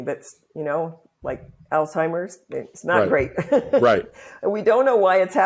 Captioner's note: laughs